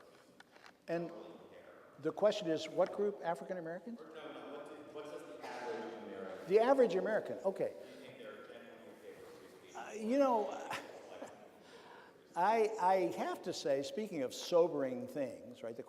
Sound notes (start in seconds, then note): 10.3 chuckles